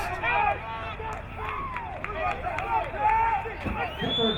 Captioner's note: crowd cheering